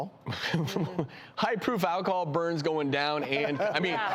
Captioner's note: laughs; laughing